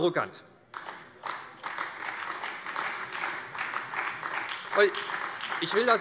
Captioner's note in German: Beifall bei der SPD